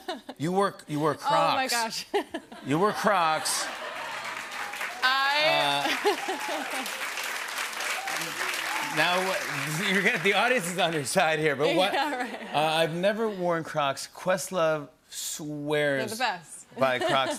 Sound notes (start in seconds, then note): 3.4 laughter and applause; 5.2 laughs; 7.0 cheers and applause